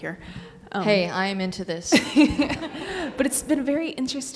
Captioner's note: Nicole and audience laugh